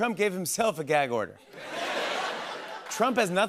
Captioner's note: laughter